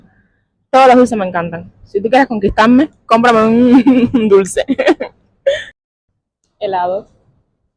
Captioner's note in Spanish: risas